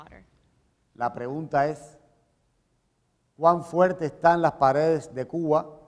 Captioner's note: speaking in Spanish